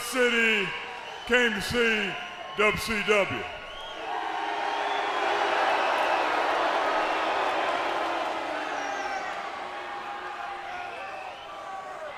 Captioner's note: crowd cheering